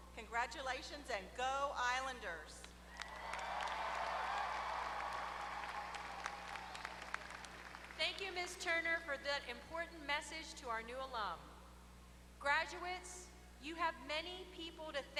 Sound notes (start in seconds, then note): 2.9 applause